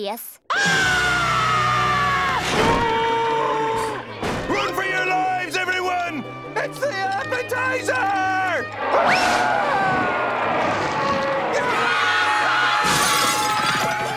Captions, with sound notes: [screaming] [screaming] Run for your lives, everyone! It's the appetizer! [screaming] [roaring] [screaming]